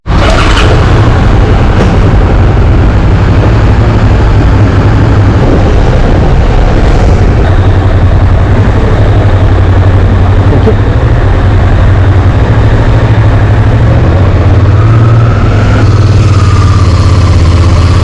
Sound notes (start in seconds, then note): 0.0 motorbike engine starting; 1.4 motorbike engine